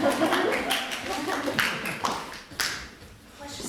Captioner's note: applause